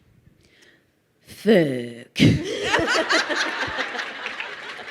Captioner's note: crowd laughing